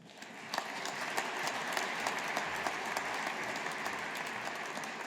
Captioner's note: audience applauding